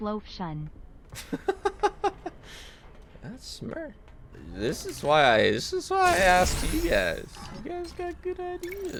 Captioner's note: laughs